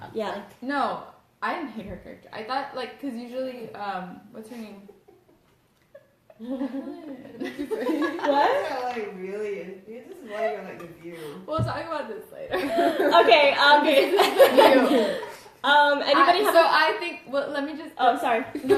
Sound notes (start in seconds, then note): 5.8 giggles; 13.8 laughs